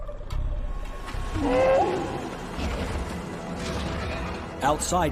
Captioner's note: dinosaur bellows